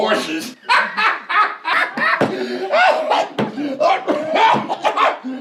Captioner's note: Jake laughing; Jake coughs